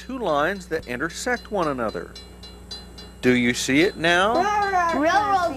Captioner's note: crossing bells dinging